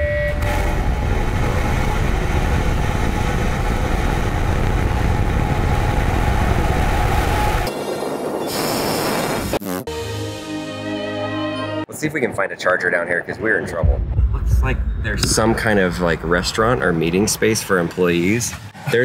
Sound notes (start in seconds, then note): 0.3 rocket roaring; 8.4 mouth blowing raspberry; 10.0 angelic orchestral music